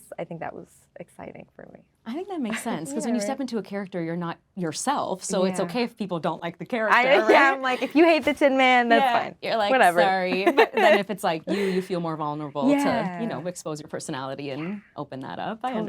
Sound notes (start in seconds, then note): 7.5 laughing